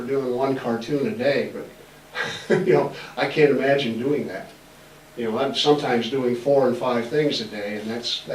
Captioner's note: laughs